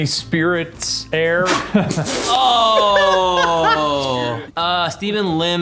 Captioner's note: groans; laughs